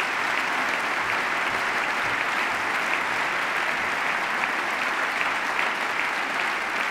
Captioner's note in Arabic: تصفيق